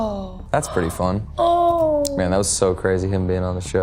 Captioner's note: Maya sighs